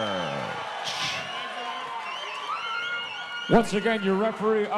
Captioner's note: audience cheering